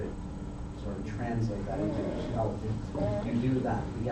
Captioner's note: speaker drowned out by static